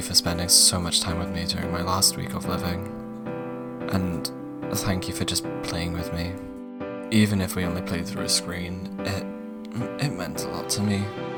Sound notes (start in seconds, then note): none